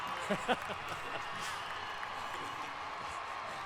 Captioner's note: applause